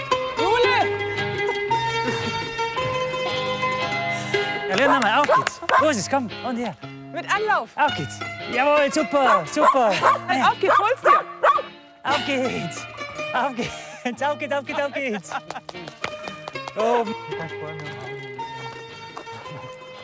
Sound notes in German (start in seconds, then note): 15.4 Lachen; 18.0 Entspannte Musik